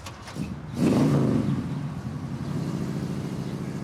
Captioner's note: car engine sounds